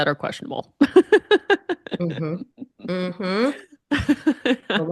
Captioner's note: both laughing